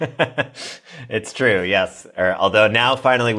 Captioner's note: laugh